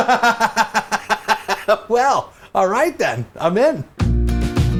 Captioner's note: laughs